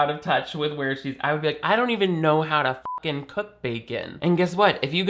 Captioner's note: beep